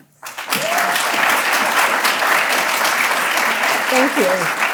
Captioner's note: audience applauding